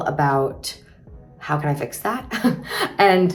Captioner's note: chuckles